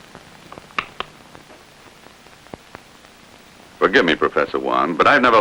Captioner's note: switch clicks